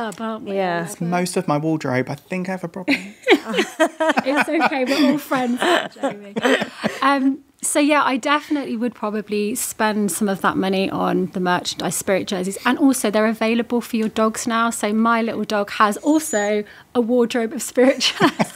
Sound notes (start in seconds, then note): 2.9 all laughing